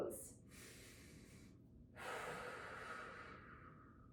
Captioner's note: breathing deeply